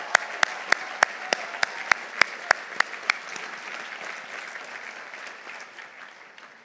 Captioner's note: audience cheering; audience applauding